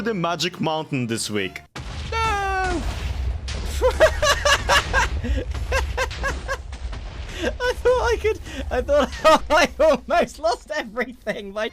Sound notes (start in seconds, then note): 1.7 explosions continue; 2.3 TNT explodes; 6.5 laughs; 9.1 laughs harder